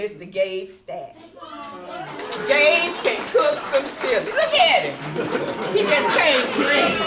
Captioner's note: applause and cheers